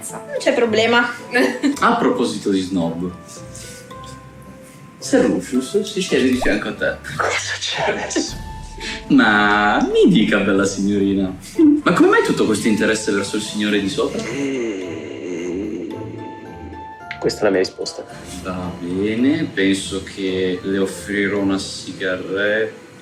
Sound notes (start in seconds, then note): 14.2 exasperated sigh